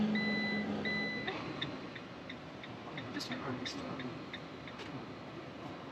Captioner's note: phone ringing